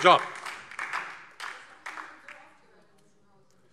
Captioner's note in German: Beifall DIE LINKE und SPD